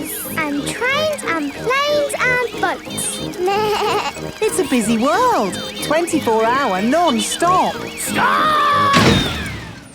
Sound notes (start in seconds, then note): 3.4 bleats; 8.9 thuds